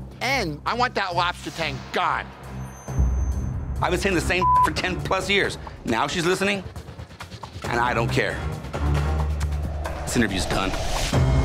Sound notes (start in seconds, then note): 4.4 beep